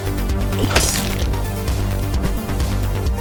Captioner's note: loud splatting